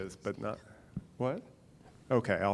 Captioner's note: woman whispering